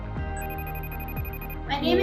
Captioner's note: phone rings